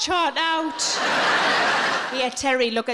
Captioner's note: audience laughing